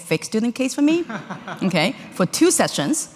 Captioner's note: audience laughing